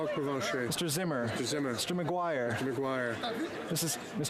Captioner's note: speaking French